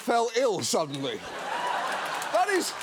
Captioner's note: studio audience laughing